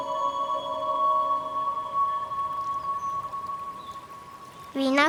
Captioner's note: birds